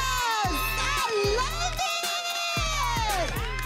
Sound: cheering

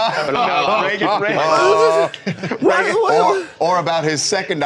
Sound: laughter

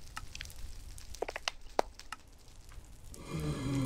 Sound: clicks and pops

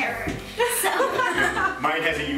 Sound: laughing

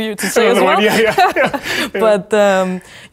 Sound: both chuckling

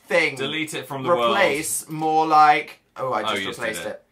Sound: none

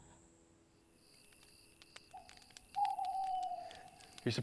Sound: crickets chirping; flames crackling

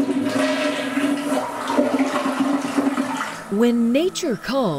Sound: flushing sound

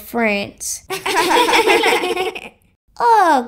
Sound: laughing

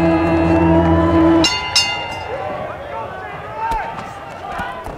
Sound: bell ringing

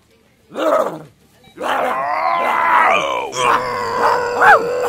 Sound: barking sounds

